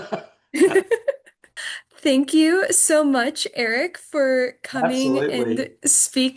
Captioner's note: laughs